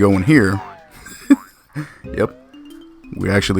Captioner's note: laughs